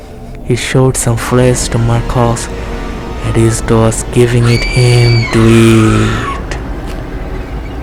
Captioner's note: shouting